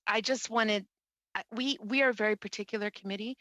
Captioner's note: speaking French